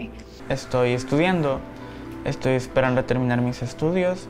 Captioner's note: speaking Spanish